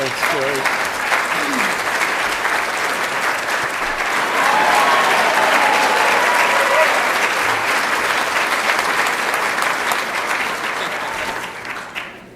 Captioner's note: applause